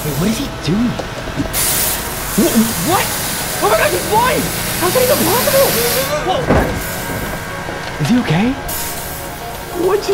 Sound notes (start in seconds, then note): 1.6 water splashing; 7.0 Zach screaming; 8.9 water splashing